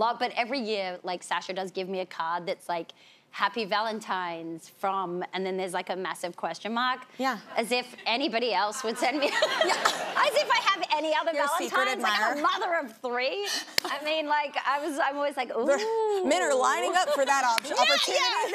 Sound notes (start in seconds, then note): 8.8 audience laughing; 8.8 audience laughs; 9.1 laughs; 16.9 laughs